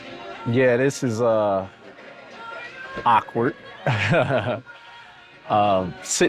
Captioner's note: laughs